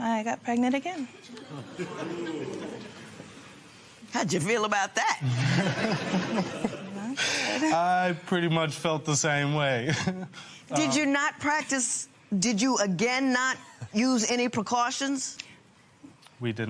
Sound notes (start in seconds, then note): 1.2 spectators murmur; 5.2 laughter